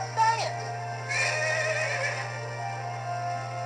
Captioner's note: horse Neighing